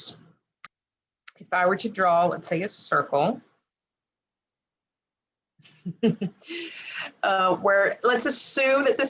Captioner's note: giggle